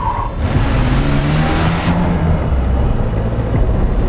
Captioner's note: engine revving